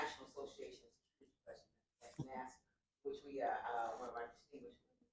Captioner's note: laughter